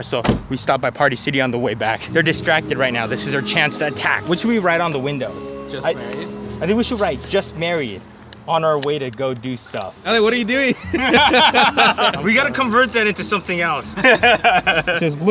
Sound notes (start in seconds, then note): 10.6 laughs